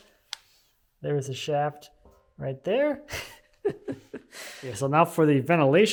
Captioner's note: chuckles